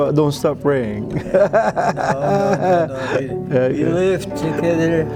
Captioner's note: laughter